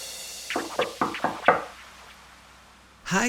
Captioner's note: hand knocking